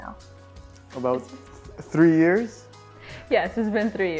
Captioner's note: laughs